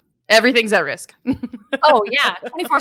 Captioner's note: laughing